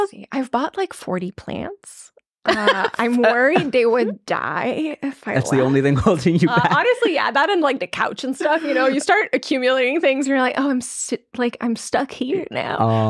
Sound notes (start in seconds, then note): 2.4 laughing